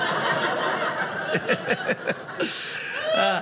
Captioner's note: audience laughing